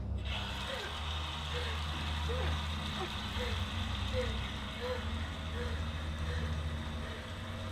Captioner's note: running water; Sarah gasps and pants